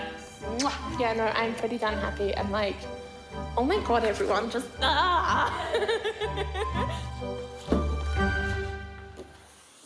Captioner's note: exclaims, laughs